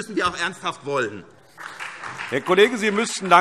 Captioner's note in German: Beifall SPD, vereinzelt BÜNDNIS 90/DIE GRÜNEN und DIE LINKE